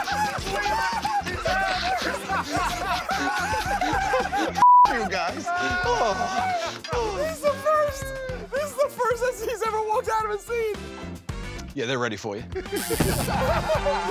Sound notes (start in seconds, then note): 1.9 laughter; 10.7 normal voice; 12.8 buzzer